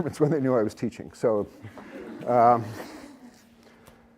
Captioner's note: laughter